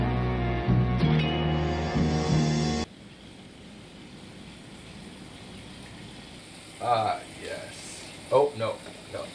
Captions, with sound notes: (faucet running) - Ah, yes. Oh, no. No.